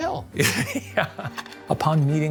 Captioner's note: laughs